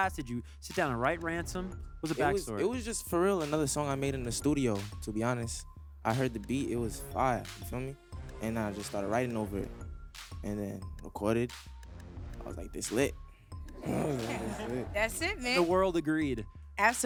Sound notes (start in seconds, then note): 13.8 audience laughs